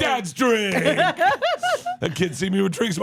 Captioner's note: laughs